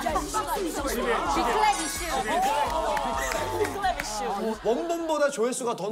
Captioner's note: big round of applause